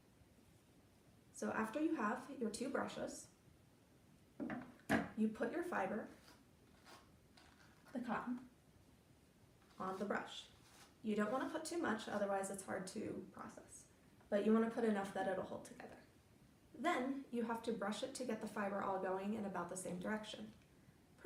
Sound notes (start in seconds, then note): 4.4 sound of brush resting on table; 6.7 sound of fiber being put on brush